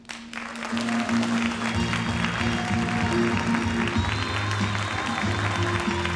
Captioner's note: audience clapping; upbeat music